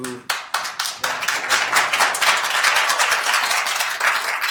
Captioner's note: attendees applauding